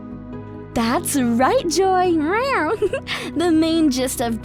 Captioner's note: chuckles